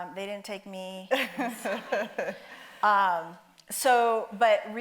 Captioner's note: audience laughs